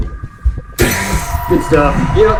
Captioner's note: adrenaline pulsing